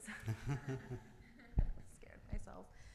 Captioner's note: all laughing